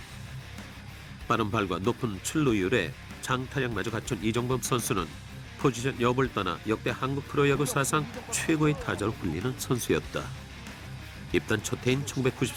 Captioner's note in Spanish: Risas